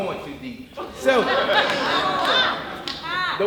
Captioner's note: audience laughing